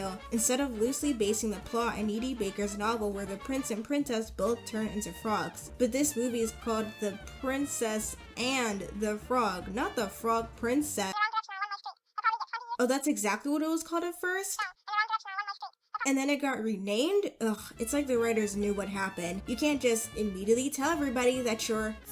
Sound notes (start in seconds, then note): 11.1 cartoon voice on phone; 14.6 cartoon phone voice